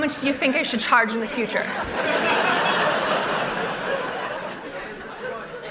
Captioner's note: laughter